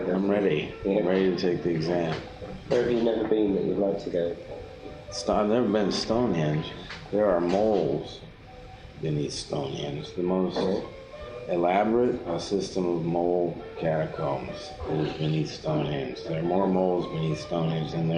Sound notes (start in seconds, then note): 2.9 voiceover